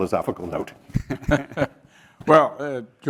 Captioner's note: laugh